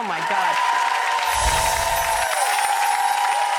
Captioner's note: cheering